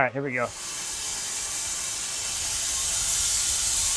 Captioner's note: blade sawing